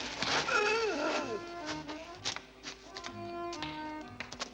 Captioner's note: man groans